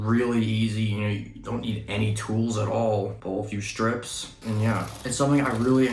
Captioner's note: paper strip begins to pull off box; paper strip pulls off of box